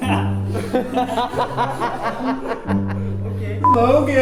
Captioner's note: laughing